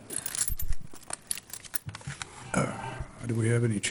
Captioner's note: keys jiggle